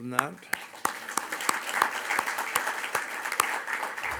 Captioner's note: audience applauds